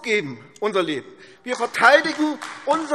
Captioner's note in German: Beifall AfD